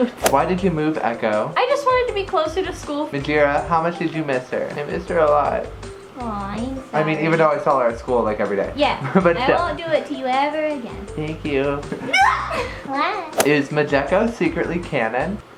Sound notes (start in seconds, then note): 12.0 shrieks